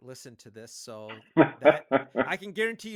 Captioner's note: laughing